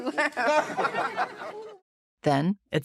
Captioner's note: laughter